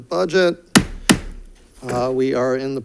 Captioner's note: gavel bangs